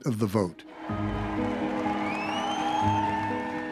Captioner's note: cheers and applause